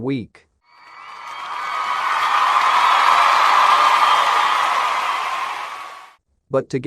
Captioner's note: cheering